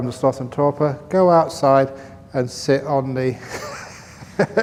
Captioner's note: laughs